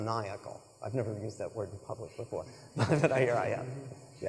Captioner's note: laughs